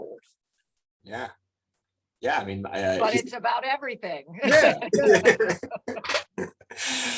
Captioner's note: laughs